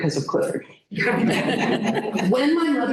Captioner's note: laughter